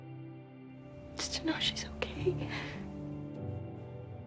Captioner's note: whispering